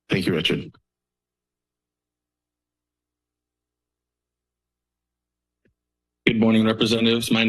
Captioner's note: silence